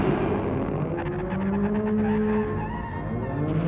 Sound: alarms and electrical noise continue

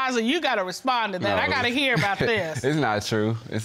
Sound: laughs

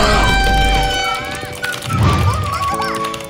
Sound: clock Ticking

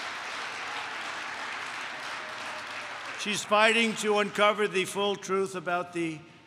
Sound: applause

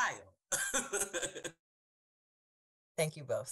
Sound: laughs

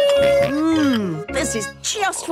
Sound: snorts

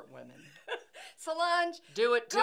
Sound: laughing

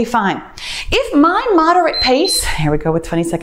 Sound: timer beeps

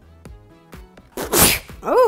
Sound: sneeze

